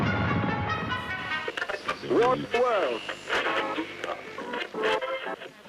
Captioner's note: snippets of radio broadcasts play